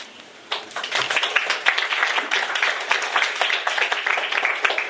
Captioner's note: applause